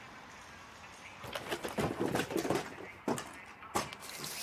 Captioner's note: banging